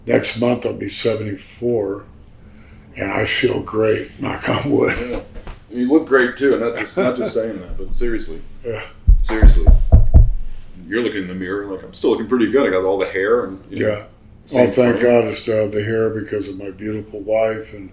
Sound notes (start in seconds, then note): 5.0 laughs; 9.0 Greg knocking on wood